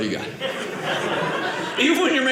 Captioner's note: audience laughing